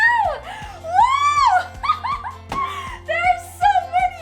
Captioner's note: laughing excitedly